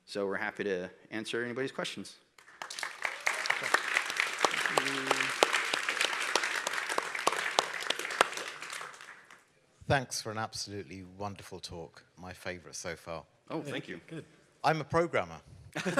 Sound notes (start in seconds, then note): 2.3 applause